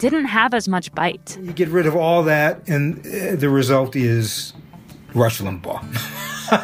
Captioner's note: laugh